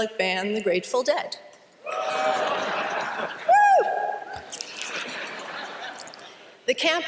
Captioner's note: cheering and laughter